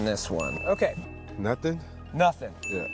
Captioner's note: bell chiming